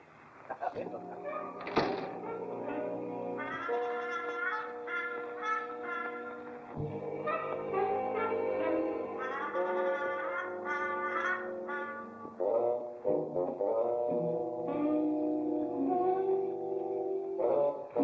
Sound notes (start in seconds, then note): 1.3 door closes; 2.9 playful music